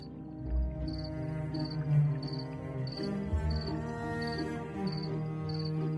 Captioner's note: dark dreamy music; crickets chirping